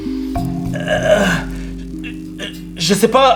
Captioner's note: Riz'shar grunts